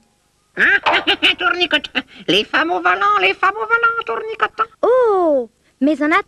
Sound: chuckles

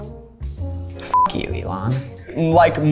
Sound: beep

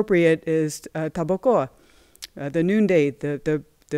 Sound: non-english speech

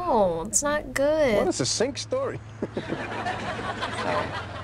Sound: chuckles

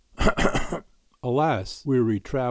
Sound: throat clearing

